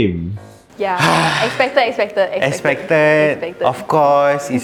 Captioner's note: sighs